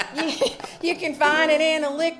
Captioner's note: laughs